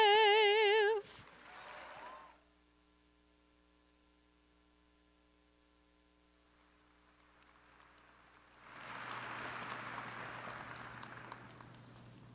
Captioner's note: applause